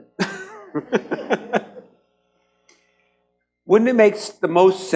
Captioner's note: laughs